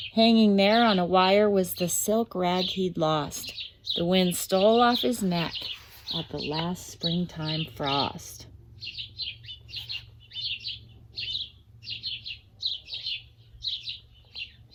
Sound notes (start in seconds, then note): 9.6 birds chirping